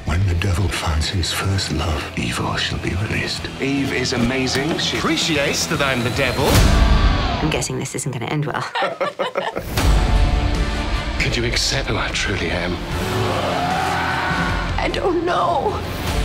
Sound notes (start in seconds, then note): 8.6 both laugh; 13.0 screams